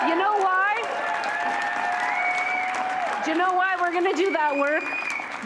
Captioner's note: cheering